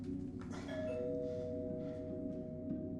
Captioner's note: door bell rings